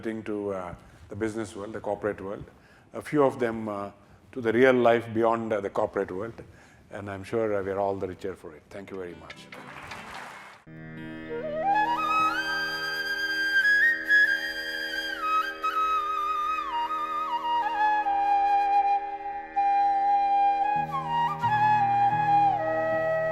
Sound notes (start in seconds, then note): 14.9 applause